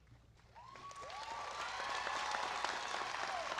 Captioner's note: applause